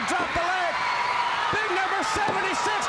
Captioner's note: crowd cheering